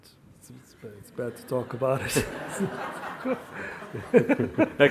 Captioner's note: laughs